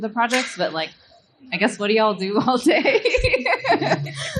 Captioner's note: laughing